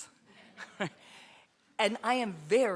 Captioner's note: laughter